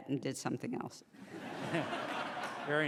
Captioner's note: laughing